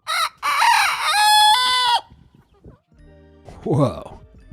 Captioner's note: rooster crowing